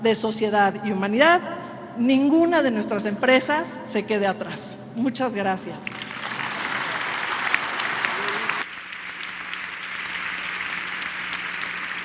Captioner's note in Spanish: aplausos